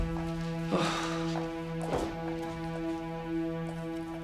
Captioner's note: Marinello sighs